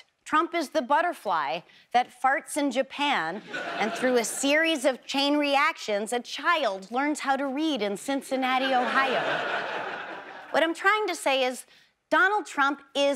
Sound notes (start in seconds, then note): 8.6 audience laughs